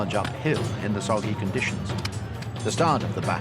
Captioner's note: weapons clanging